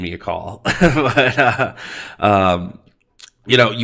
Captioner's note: laughs